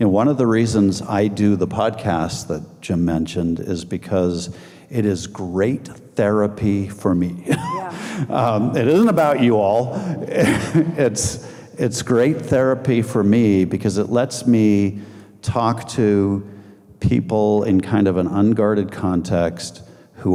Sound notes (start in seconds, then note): 7.4 laughing